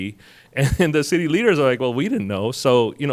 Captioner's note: chuckles